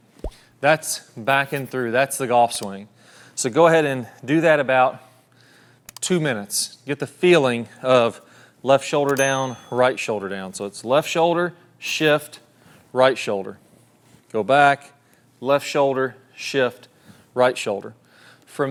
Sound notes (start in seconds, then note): 0.1 bubble popping; 6.4 mouse clicking; 9.1 bell dinging